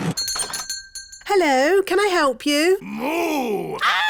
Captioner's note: shop bell rings; screams